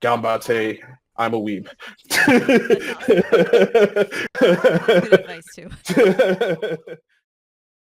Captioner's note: laughing